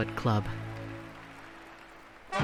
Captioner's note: applause